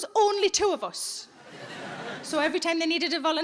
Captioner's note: audience laughing